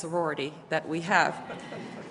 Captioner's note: laughter